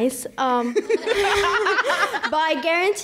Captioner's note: laughs